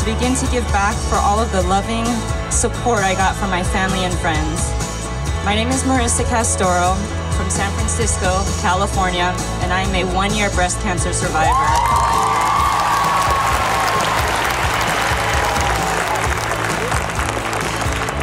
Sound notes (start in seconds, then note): 11.4 cheering